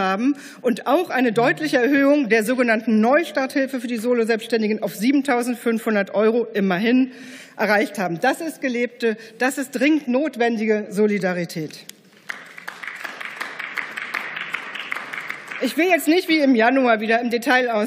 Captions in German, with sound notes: und auch eine deutliche Erhöhung der sogenannten Neustarthilfe für die Solo-Selbstständigen auf 7.500 Euro, immerhin, erreicht haben. Das ist gelebte, das ist dringend notwendige Solidarität. (Beifall) Ich will jetzt nicht wie im Januar wieder im Detail ausführen,